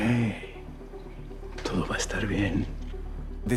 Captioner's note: in Spanish